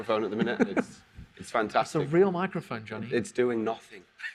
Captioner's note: laughs